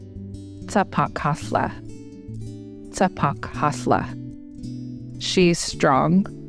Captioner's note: speaker speaking in Native American language